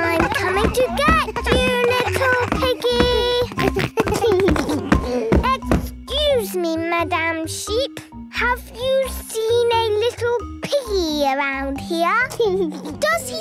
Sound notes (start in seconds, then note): 0.0 giggles, snorts; 3.7 giggles